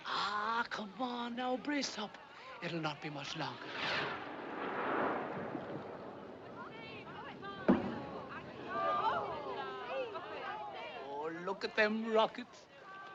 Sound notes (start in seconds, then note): 3.5 rocket Whooshing; 6.7 murmuring; 6.7 popping